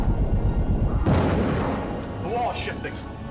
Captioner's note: crash